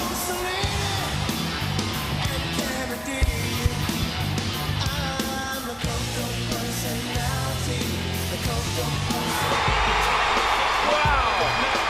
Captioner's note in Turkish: Alkışlar